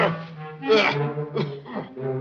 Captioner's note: groans